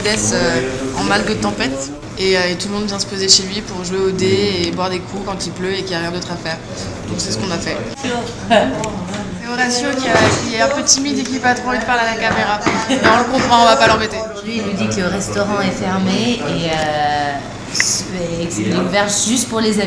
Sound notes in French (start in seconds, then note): 12.7 rires